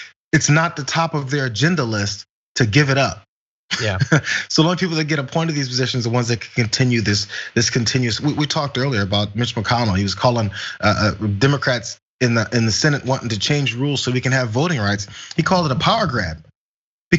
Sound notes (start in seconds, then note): 3.7 laugh